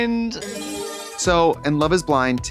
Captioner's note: bright chime